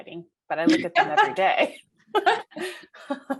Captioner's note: laughing